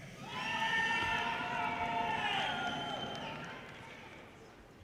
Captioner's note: audience cheers and applause